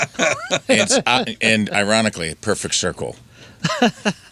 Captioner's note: laughing